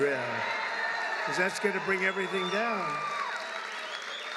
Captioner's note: applause